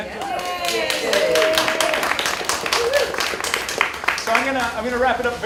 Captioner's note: applause